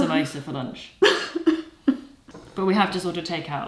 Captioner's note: weeps